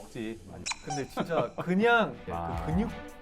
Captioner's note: giggling